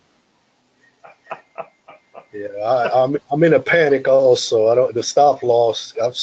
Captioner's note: laugh